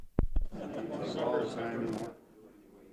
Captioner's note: meeting noise